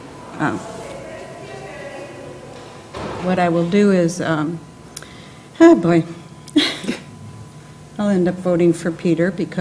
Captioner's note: laugh